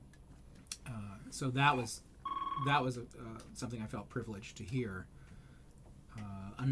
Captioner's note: phone rings